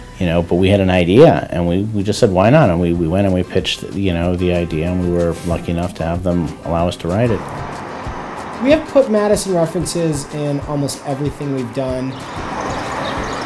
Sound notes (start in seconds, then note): 7.6 wind blows; 12.0 birds chirping, cars driving